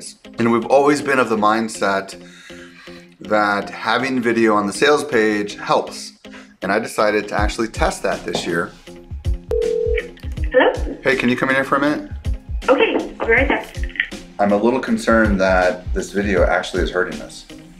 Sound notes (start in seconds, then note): 8.7 relaxed music; 9.5 phone ringing